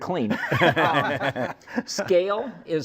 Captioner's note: laughs